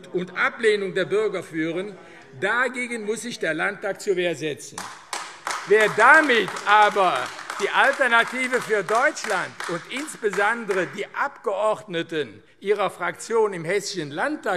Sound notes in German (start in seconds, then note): 4.7 Beifall AfD